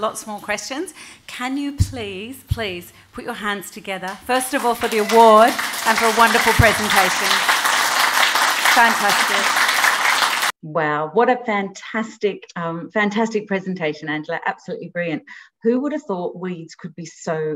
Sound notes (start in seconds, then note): 8.6 applause